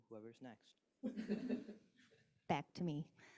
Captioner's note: laughs